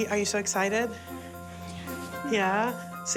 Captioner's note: quietly